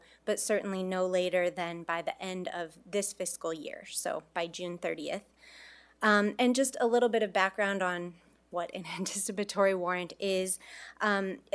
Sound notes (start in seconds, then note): none